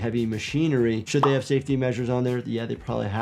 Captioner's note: graphics popping